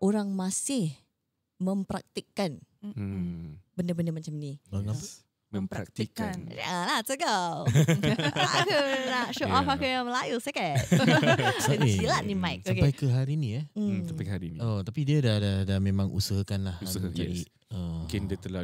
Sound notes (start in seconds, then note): 5.7 laughters